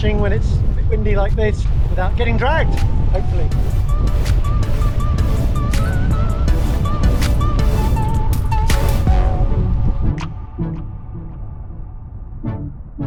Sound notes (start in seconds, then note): 3.7 upbeat music continues; 6.3 wind whooshing